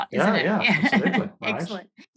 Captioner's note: laughs